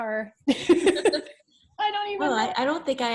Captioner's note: laughs